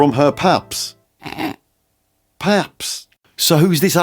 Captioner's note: snigger